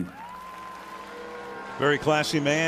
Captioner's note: cheering